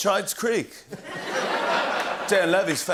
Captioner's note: laughter